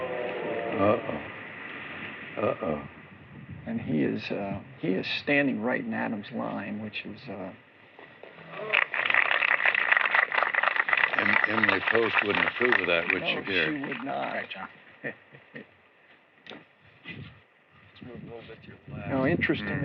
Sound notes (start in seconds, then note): 8.5 applause; 15.0 chuckles